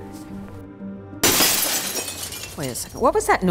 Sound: glass crashing

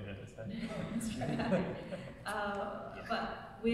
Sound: laughing

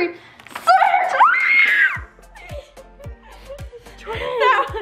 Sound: screaming

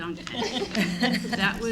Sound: laughing

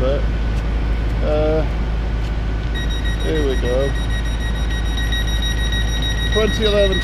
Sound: door beeping

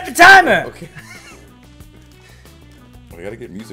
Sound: laugh

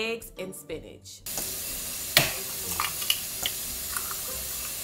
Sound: food sizzling

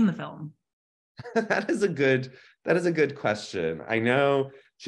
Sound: laughs

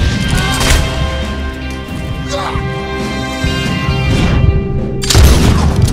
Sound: gunshots; grunts; gunshots

